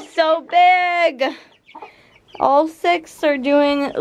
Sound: birds tweeting

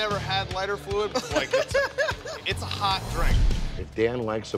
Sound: laughs

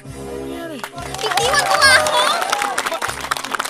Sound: guests cheering

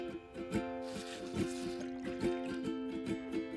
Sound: hisses

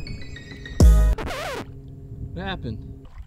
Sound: record scratch

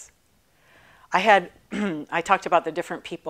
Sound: clearing throat

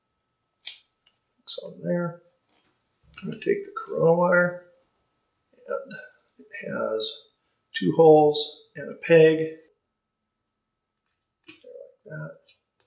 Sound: snap Sound

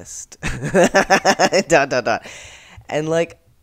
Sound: laughter

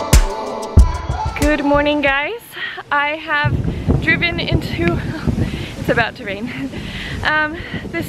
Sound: thunder

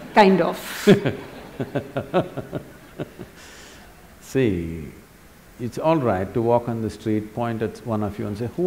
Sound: laughs

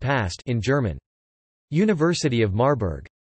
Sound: in German

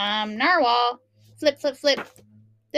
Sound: flip, flip, flip

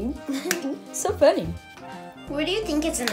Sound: laughs

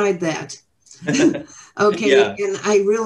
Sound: all laughing

